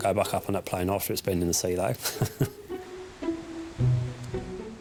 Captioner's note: chuckles; bright music